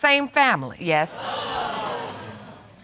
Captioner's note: audience exclaiming